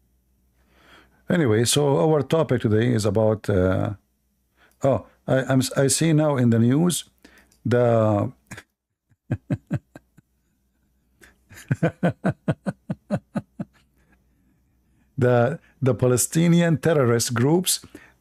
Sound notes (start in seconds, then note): 11.2 Ketawa